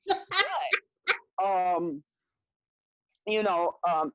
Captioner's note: laughing loudly